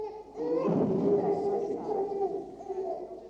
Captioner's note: baby crying